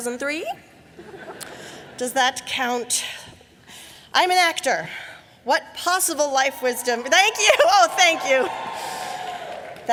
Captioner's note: cheering